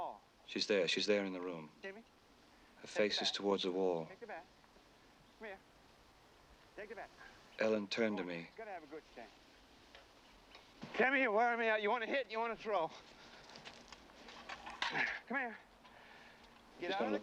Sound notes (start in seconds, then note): 15.0 grunts